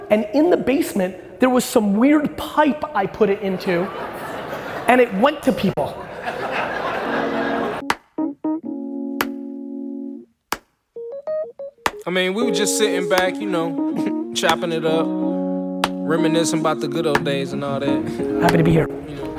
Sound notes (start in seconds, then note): 6.5 audience laughing; 10.2 hands clapping slowly